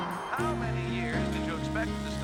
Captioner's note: radio Announcer